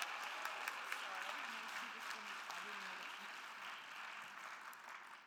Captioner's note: attendees applauding and cheering; speaking faintly